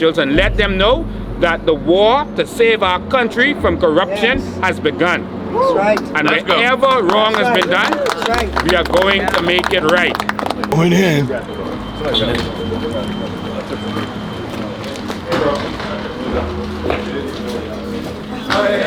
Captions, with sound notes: and let them know that the war to save our country from corruption has begun. [people cheer] And whatever wrong that's been done, we are going to make it right. Going in.